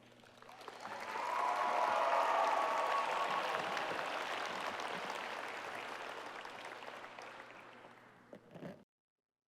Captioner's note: applause